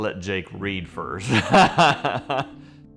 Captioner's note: laughter